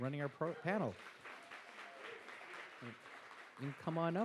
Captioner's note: audience applauds